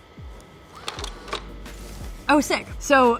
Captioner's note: clicking